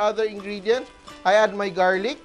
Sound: sizzle

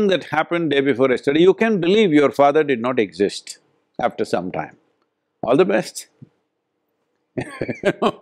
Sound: laughs

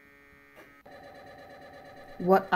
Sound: MRI Quick Processing Sound

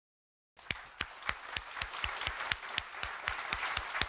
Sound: applause

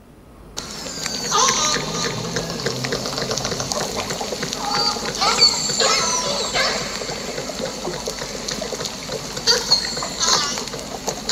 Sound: orca noises, crackling, both orcas are singing

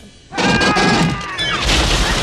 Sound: panicked yelling; metal crashing; gun firing; glass smashing

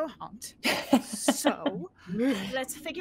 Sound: laughs

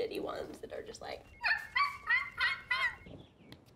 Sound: Spring pretends to bark

